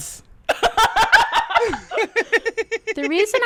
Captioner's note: laughter